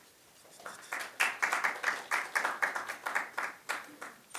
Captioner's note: applause